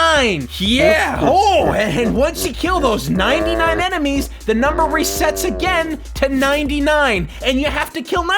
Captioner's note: yeah! oh!